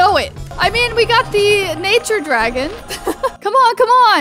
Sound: chuckles

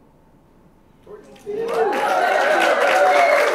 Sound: applause and cheers

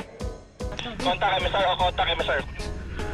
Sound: radio

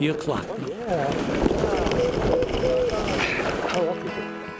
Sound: scraping; acoustic guitar

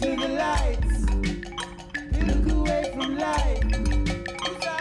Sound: clang, clang, clang of cowbell

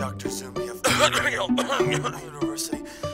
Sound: fake coughing

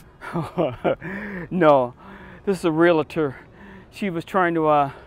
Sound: laughs

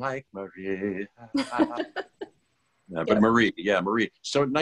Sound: singing; laughter

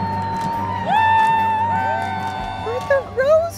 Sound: crowd cheering

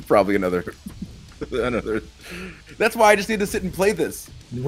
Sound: laugh

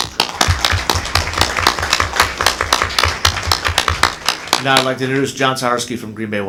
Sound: applause

